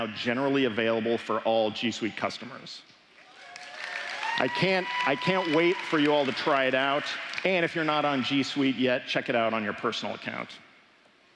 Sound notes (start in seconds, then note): 3.2 applause